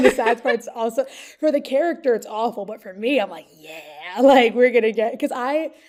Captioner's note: laughs